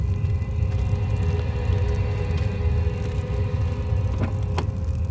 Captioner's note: fire rumbling